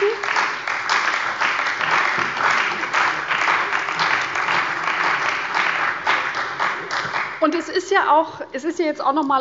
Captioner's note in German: Beifall bei der CDU und dem BÜNDNIS 90/DIE GRÜNEN